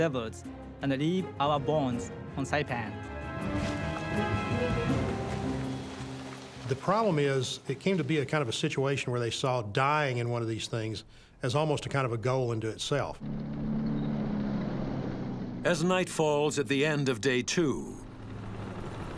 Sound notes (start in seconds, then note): 3.5 dramatic ominous instrumental music; 13.1 tank rumbling